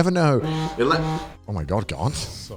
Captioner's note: phone buzzing